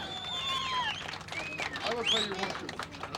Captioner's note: all applauding